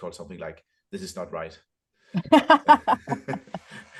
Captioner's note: laughter